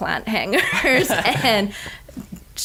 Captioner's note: laughing